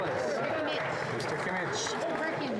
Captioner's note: applause